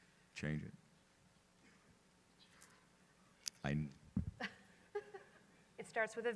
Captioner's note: laughter